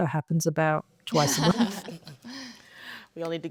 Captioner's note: panelists laughing